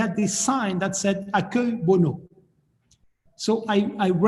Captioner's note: speaking of foreign language